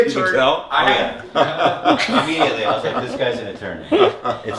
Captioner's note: laughs